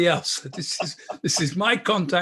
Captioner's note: laughing